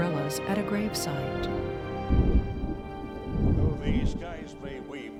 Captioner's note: thunder Rumbling